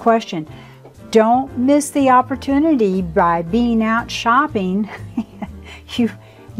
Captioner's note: laughs